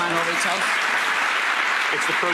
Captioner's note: audience clapping